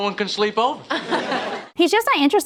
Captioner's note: people laughing